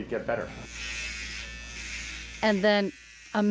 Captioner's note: razor buzzing